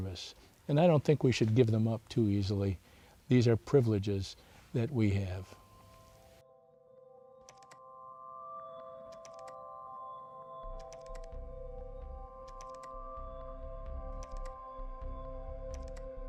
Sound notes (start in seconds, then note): 5.5 instrumental music plays; 12.4 keyboard typing sounds